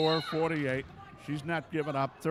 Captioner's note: referee whistling